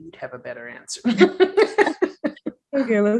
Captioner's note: laughs